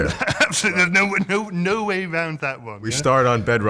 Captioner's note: laughter